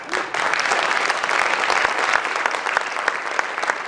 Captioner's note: applause